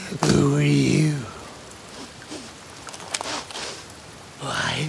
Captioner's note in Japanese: 匂いを嗅ぐ音